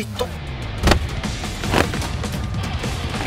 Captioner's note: Kicking sound